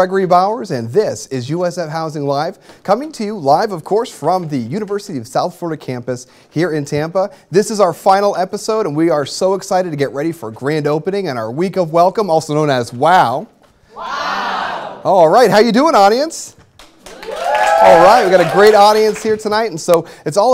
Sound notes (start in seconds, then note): 17.0 cheers and applause